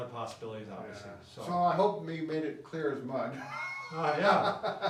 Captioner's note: laughs